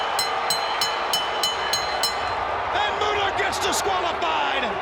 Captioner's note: bell ringing; crowd cheering